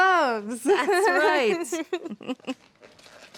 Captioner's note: laughter